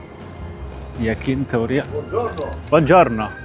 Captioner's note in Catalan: en italià